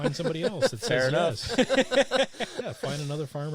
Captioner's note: laughing